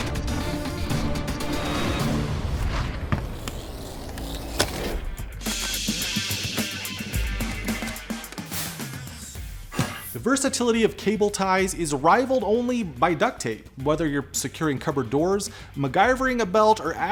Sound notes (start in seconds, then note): 0.0 upbeat music; 5.7 hissing